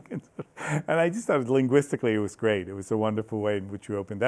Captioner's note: laughs